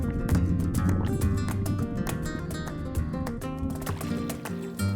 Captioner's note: water gurgling